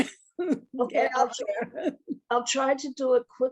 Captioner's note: laughs